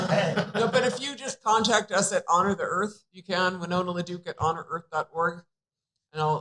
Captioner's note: laughter